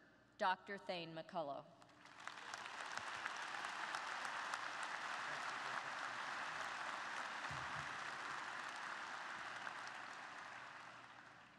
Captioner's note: applause